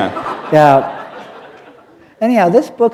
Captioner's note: laughter